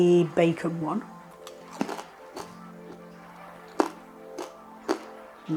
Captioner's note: crunchy chewing